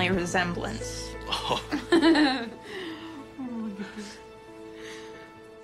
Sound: parents laughing

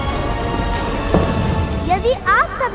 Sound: bangs

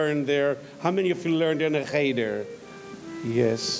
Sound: speaks in foreign language

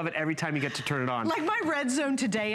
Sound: laughter

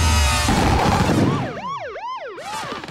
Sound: siren blaring

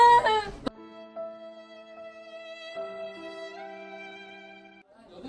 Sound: almost crying

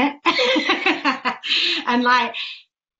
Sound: laughs

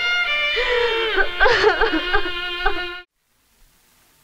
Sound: crying

